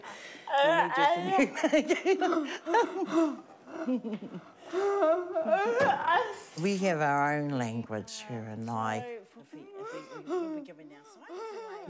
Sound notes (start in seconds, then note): 1.2 both laugh